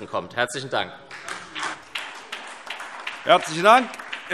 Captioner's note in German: Beifall SPD